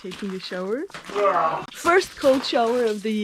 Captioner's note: screaming